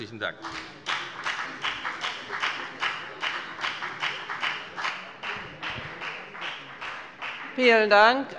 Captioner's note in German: Beifall bei der FDP